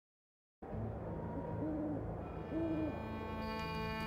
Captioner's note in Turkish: Baykuş sesi